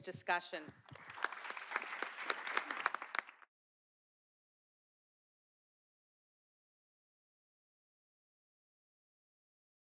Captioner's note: applause